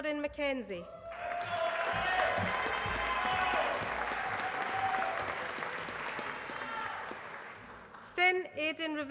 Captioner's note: applause